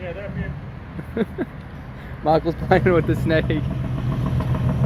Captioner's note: laughs